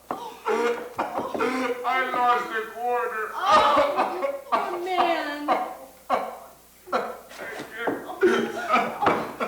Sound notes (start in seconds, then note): 3.7 sobbing